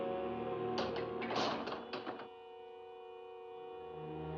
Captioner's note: eerie music; gate closes; ominous music